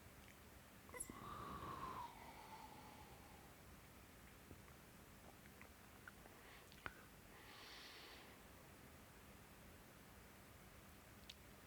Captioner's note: exhales